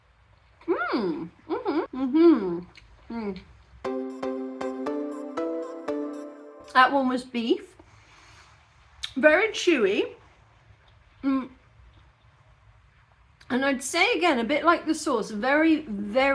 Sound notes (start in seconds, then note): 0.7 happy mouth noises